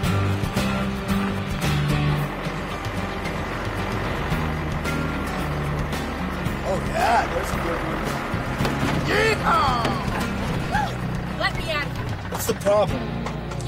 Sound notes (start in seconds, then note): 0.2 upbeat music; 3.6 tractor engine revving; 10.6 Caitlin whoops